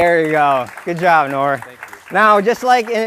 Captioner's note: applause